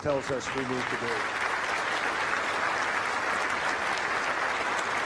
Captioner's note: crowd applauding